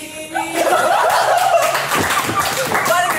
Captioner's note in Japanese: 笑い